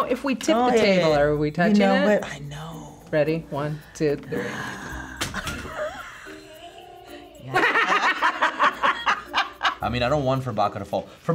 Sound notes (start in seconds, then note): 4.8 laughs; 4.9 Furbacca clatters; 6.3 Furbacca wookiee-ing; 7.3 laugh